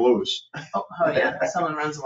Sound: people chuckle

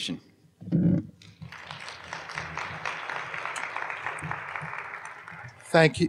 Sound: applause

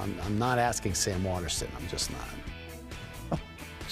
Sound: chuckles

